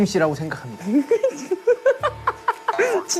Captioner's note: Tertawa